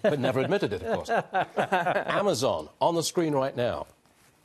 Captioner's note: laughter